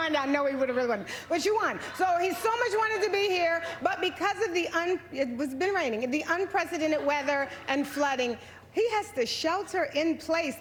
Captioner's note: laughter